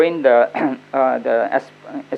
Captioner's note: coughs